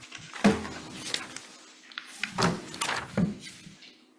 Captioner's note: chair harmonizing; paper thudding